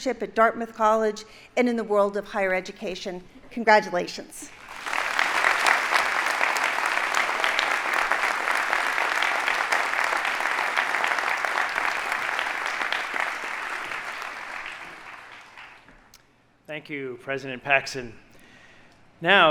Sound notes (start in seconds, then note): 4.7 audience applauding